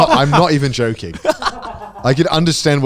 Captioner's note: cameraman laughing